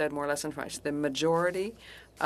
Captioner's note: speaking French